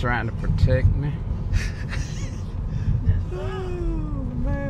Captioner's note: & Mom Laughing